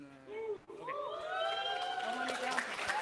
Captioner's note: cheering